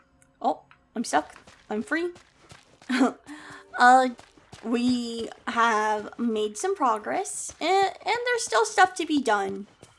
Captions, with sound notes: Oop- I'm stuck. I'm free. [Laughs] Uh, we have made some progress, and there's still stuff to be done.